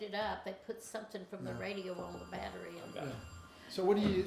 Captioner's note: phone ringing